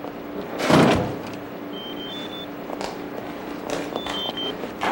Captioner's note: door slamming; phone ringing